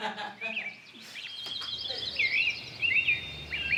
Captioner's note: laughs